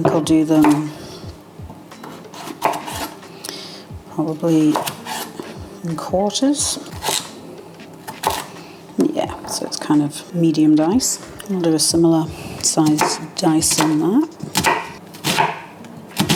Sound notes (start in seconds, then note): 8.1 chop chop chop